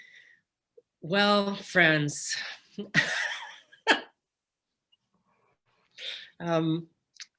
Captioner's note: laughs